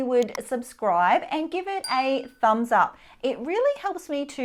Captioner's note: bell dings